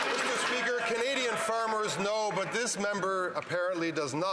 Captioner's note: some Applause